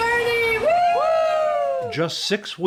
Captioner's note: cheering